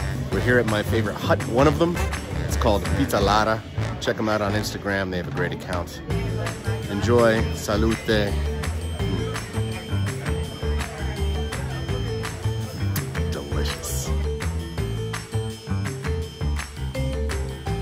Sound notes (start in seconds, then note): 12.5 mmm